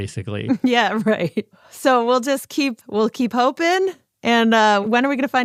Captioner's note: laughs